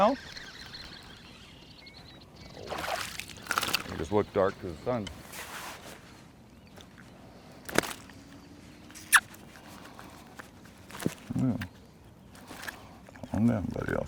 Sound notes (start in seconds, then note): 0.0 fish splashing; 6.1 fish thrashing